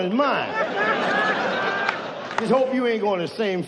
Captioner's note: audience laughs